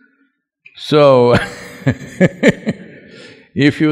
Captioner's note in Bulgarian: Смее се